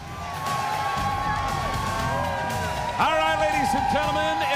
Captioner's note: crowd cheering